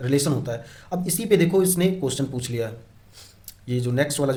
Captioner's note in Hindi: नाक से की जाने वाली आवाज़